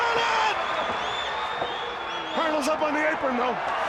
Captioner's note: crowd chatter